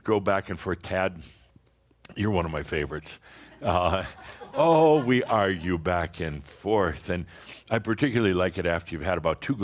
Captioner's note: some chuckles